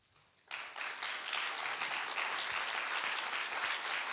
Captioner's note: applauding